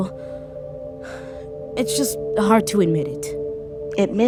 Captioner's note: sighs